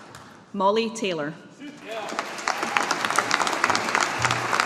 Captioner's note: audience applauding